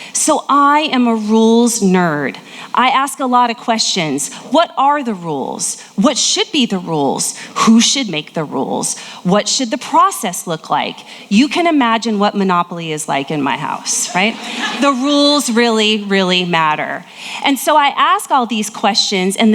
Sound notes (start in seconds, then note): 13.8 audience laughing